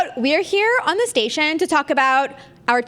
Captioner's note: none